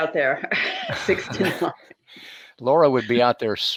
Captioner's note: all laughing